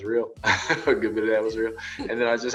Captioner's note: laughing